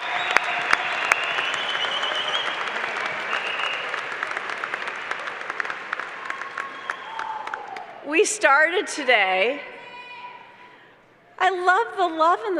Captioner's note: applause